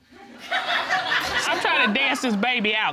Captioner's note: audience laughs